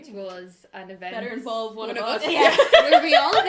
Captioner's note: laughter